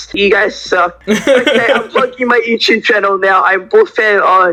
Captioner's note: light Laughing